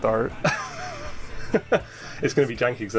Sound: laughing

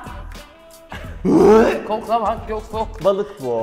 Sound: gags

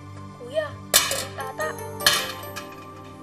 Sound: objects clattering

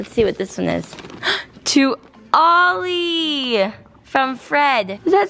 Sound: gasps

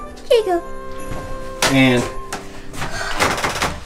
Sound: wood creaking

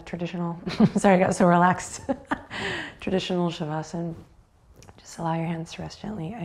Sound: laughs

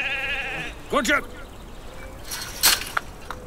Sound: sheep crying; man speaking in foreign language; gate rattles

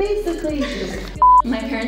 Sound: interviewer laughs

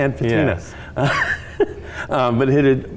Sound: laughing

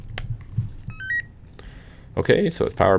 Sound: beeping

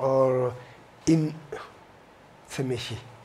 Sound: speaks foreign language

